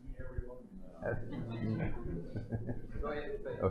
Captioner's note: laughter